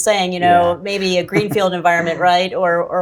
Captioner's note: chuckles